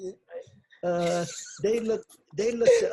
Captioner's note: laughs